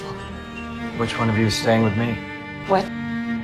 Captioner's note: voiceover